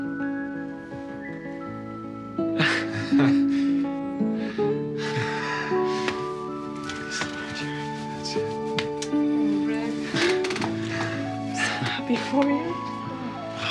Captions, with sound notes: (laughing) Thanks a lot, Jerry. - Sure. - Oh, Rick. I'm so happy for you.